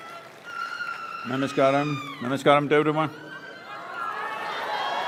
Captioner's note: applause